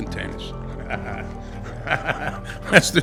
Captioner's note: laughing